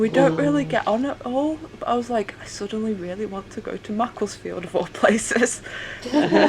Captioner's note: laughter